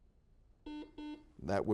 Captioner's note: series of beeps